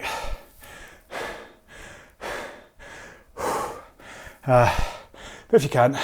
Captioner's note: breathing heavily